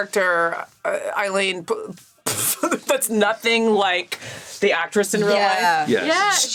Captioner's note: chuckles